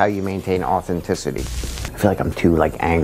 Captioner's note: static buzzing